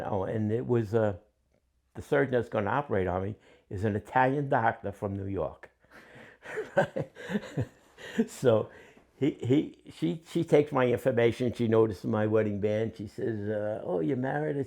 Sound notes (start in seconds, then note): 6.0 laughter